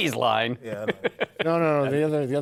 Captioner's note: laughs